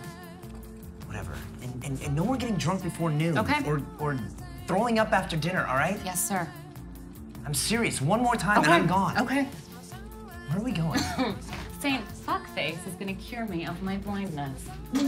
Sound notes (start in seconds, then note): 11.1 laughs